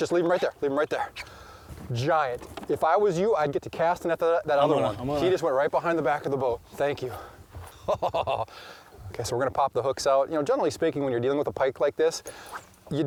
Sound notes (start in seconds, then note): 7.6 laughing